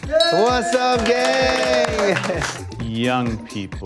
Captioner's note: crowd